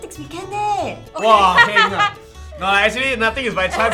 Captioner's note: laughs